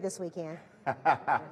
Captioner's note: laughing